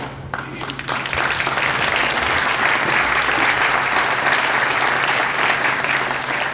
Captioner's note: applause